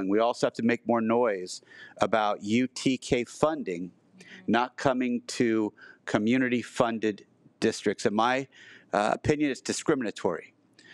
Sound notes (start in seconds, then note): none